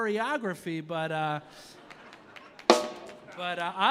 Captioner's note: audience laughing